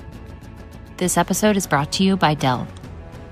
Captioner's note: voiceover